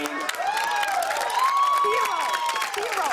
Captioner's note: cheers and applause